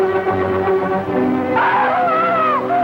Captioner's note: screaming